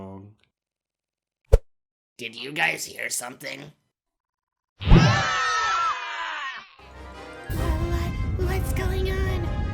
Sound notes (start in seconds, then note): 5.0 giant net flings contestants into the air. Everyone screams